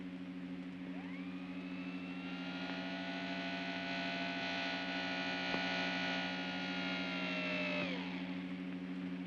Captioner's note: soft hum; door mechanism whines; soft hum